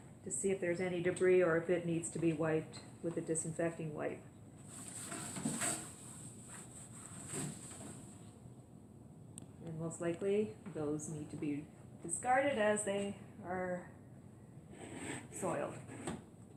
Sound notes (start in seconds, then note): 4.7 wiping sounds